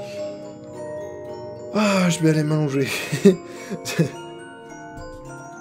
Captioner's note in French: Rire